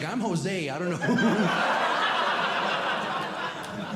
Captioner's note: audience Laughing